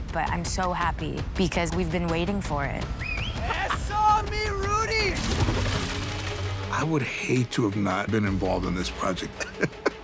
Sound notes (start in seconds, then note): 2.9 whistles; 9.3 chuckles